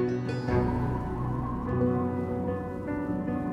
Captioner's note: wind whipping